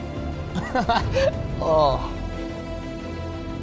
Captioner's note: laughs